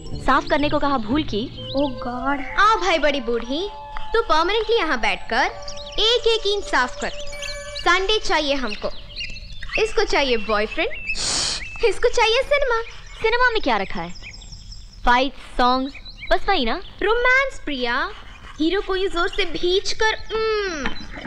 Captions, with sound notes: Has she made a mistake by asking you to clean? - Oh God! - Yes, oldie. Sit here permanently. And clean every pane. We want a Sunday. She wants a boyfriend. (Birds Chirping) She wants movies. What's special about the movies? Fight. Songs. That's it. Romance, Priya. Hugging the hero tightly like this.